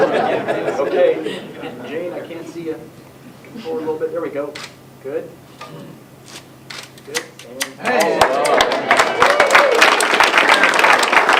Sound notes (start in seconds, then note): 7.9 applause